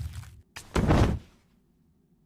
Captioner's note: thud